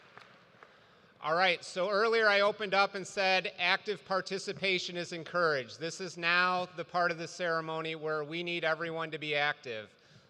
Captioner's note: applause